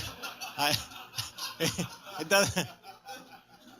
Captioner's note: laughs